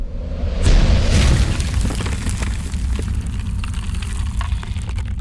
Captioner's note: loud rumbling and cracking